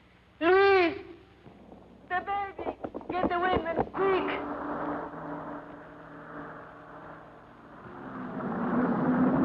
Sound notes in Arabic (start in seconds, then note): 4.2 محرك السيارة يدور